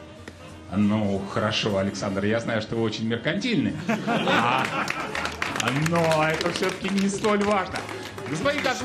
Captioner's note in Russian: смех